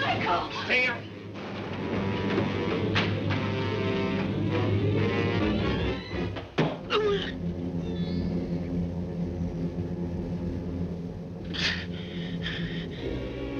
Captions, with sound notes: - Michael! - Stay here! (dramatic music) (knife thuds) (Urgereff groans) (dramatic music)